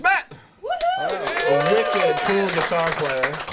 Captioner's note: crowd cheers